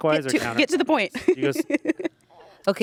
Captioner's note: laughs